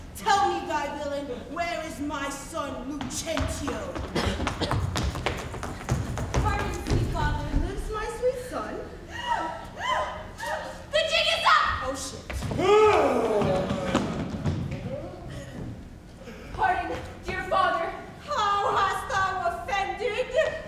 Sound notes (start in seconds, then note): 9.2 group gasping; 12.9 Grumio gasps